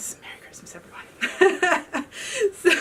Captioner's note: laughs